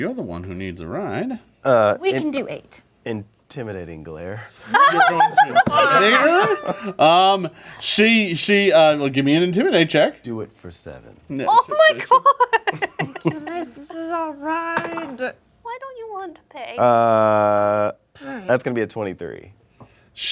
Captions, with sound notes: You're the one who needs a ride. - We can do eight. - Intimidating Glare. (laughing) - You're going to intimidate her?! Gimme an Intimidate check! - Do it for seven. - Oh my god! - Ikyulus, this is our ride! (dice clatter) - Why don't you want to pay? - That's gonna be a 23.